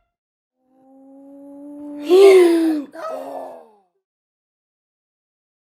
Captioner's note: sigh